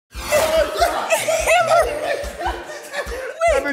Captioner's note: everyone laughs